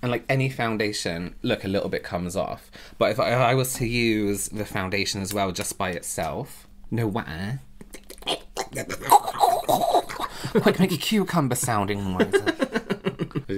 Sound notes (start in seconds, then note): 7.7 suspicious Mouth Noises